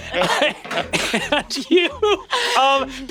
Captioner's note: players laughing; laughing; metal clunks